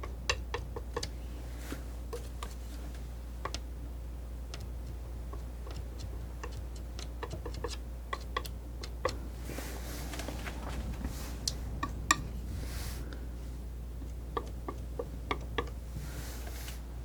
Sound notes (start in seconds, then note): 0.0 tapping; 11.8 tapping; 14.2 tapping